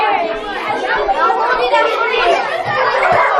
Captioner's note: students talking among themselves